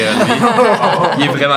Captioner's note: laughter